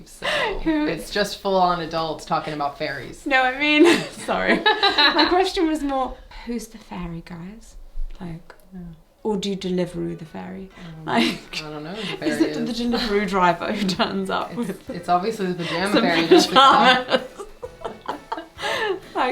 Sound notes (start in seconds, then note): 3.3 laughs; 3.8 both laughing; 11.2 laughing; 17.6 both laughing